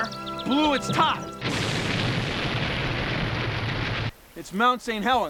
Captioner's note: booming